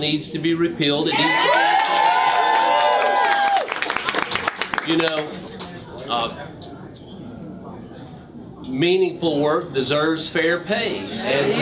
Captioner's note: crowd cheers